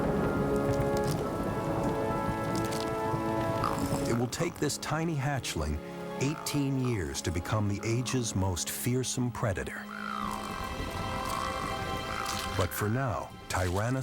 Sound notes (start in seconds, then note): 8.0 growling